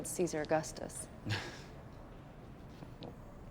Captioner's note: laughs